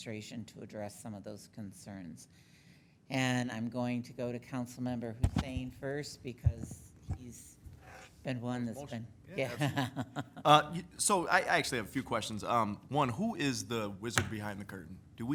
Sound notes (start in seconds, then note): 9.3 laughing